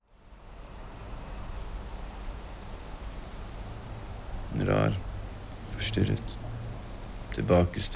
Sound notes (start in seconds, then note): 0.0 wind rustling through trees